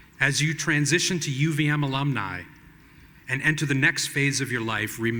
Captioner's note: none